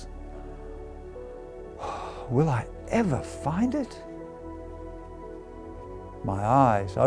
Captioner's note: sigh